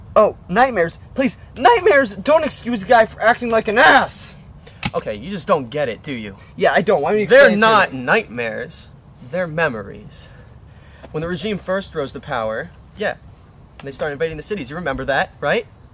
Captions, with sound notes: Oh? Nightmares? Psh please, nightmares don't excuse a guy for acting like an ass! Okay, you just don't get it, do you? - Yeah I don't, why don't you just explain it to me (sarcasm) They're not nightmares! They're memories... When the Regime first rose to power, yeah, when they started invading cities you remember that, right?